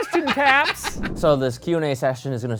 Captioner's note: laughs